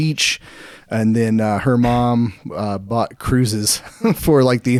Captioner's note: chuckles